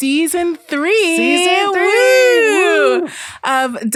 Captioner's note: both wooing